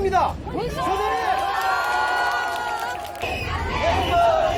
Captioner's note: crowd